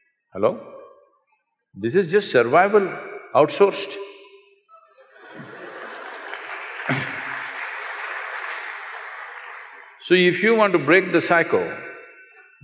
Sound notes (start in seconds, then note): 5.0 laughter/Applause